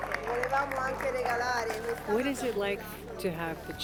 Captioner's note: speaking in foreign language; staff speaking in foreign language